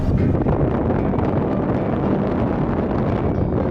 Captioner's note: wind howling